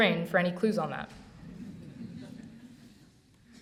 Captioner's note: audience laughs